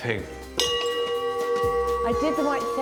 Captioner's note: bell dings